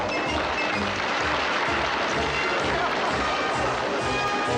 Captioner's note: audience applauding